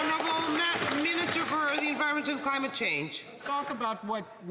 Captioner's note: some Applause